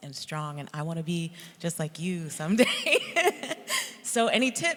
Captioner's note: laughs